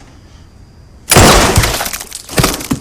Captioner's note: splatter; gunshot